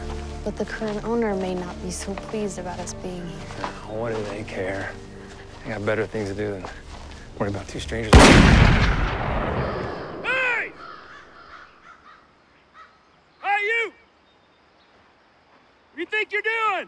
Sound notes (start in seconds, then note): 8.1 gunshot